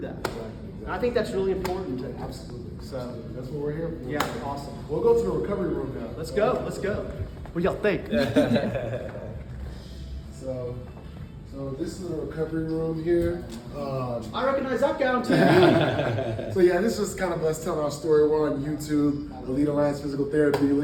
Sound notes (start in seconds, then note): 8.1 laughs; 15.3 all laugh